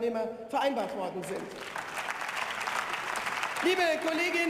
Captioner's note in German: Beifall